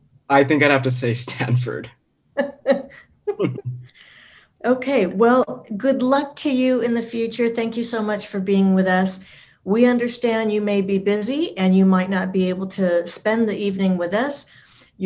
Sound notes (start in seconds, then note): 3.2 laughs; 3.2 giggles